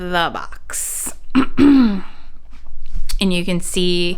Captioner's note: clearing throat